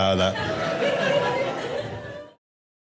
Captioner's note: audience laughing